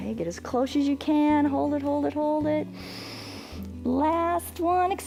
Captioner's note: inhales